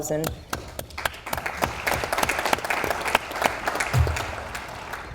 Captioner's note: audience applauds